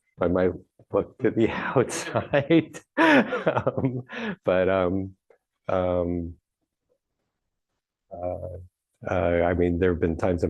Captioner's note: laughs